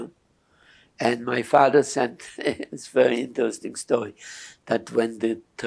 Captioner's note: laughing